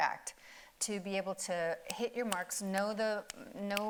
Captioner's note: snaps